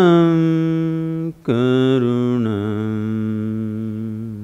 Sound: none

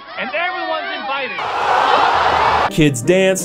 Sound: roaring applause

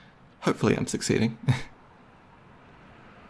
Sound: giggles

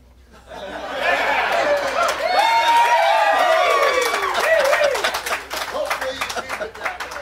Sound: applause

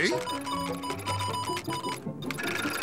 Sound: beeping

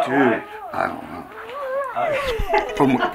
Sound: dog whimpering

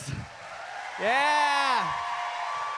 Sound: audience cheering

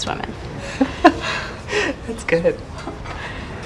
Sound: Violet laughs

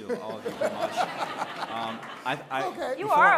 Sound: laughter

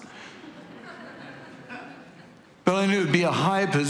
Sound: congregation laughing

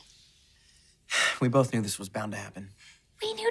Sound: sighing; whispering

